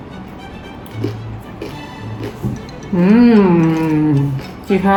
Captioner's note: food crunches; food munches